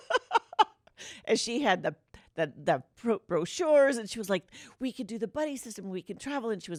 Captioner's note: laughter